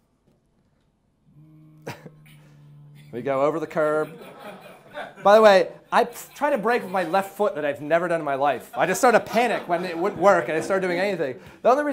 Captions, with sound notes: (low growling) We go over the curb. By the way, I try to brake with my left foot, that I have never done in my life. I just sort of panicked when it wouldn't work, and I started doing anything.